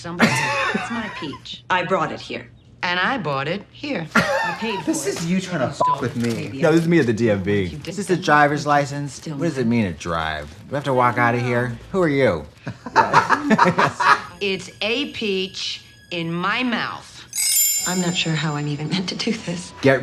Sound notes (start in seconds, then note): 0.2 both laugh; 4.2 Katya laughs; 12.8 both laugh